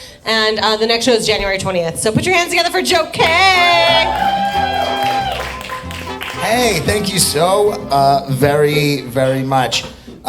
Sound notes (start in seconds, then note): 3.2 upbeat music; 3.2 audience applauding